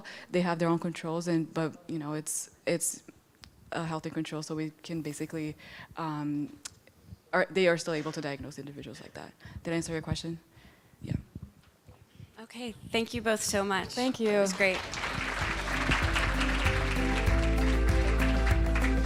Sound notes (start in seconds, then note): 13.8 applause